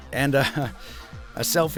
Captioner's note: chuckles